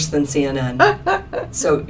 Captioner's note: laughter